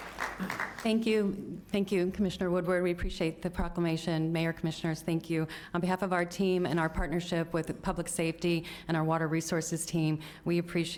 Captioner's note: applause